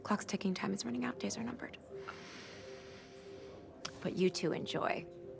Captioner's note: inhales heavily